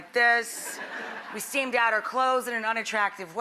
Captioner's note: laughter